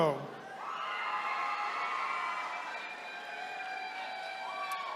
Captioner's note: attendees cheering